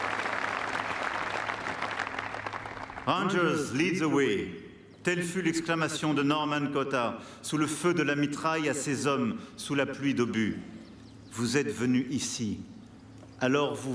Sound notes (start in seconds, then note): 2.4 applause; 2.4 speaking french